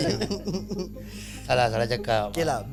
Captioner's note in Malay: ketawa